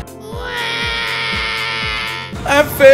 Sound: cries

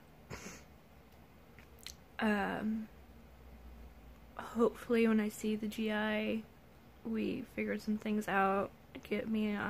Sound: sniff

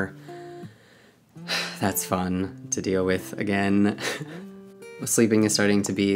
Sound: sighs; laughs

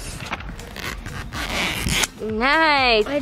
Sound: plastic ripping

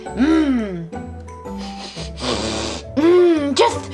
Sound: sniffing

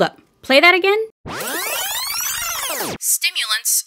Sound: rewind

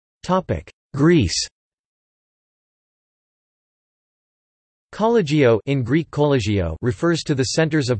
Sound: in Greek Κολλέγιο

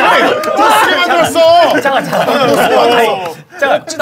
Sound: clapping for some reason

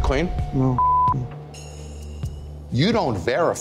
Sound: beep

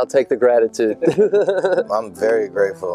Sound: laughing

